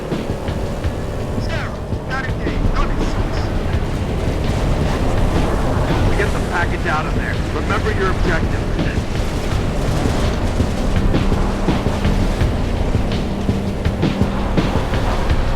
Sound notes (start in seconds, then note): 6.3 radio